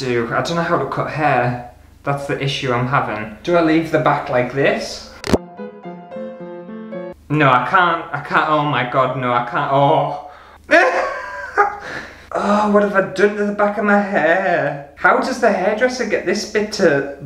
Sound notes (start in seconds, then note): 5.1 classical Music; 10.6 hysterical Laughter